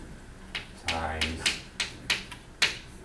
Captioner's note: voiceover